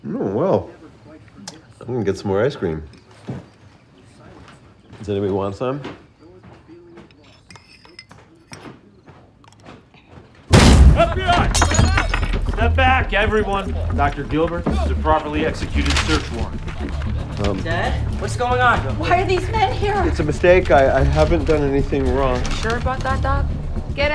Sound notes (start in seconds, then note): 7.5 spoon thuds; 10.5 door ram slams; 14.6 warrant rustles